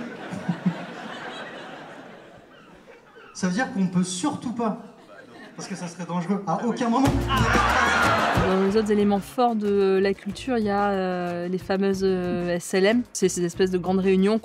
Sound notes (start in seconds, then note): 0.0 crowd laughing; 7.0 crowd cheering; 7.0 jazz music